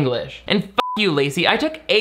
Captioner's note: beep